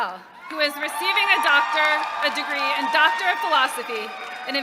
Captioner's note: applause